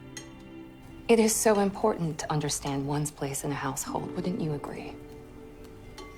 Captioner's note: voiceover